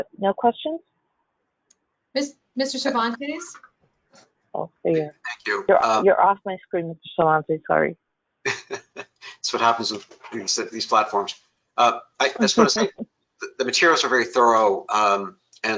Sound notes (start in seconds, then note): 8.4 laughs; 11.8 laughs